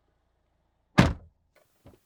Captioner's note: door Thud